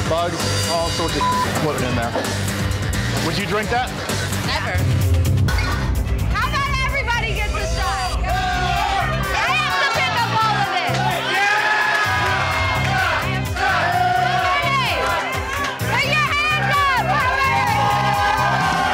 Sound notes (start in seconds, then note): 11.9 crowd